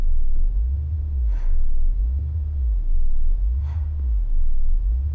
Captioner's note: breathing heavily